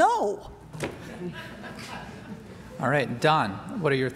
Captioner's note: laughter